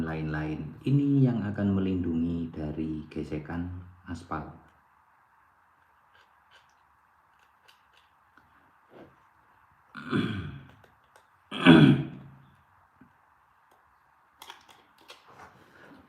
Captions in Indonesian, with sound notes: lain-lain. Ini yang akan melindungi dari gesekan aspal. [berdehem][batuk]